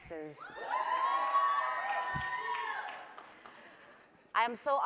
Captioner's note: audience cheers